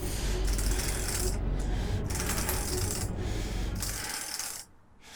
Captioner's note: panting loudly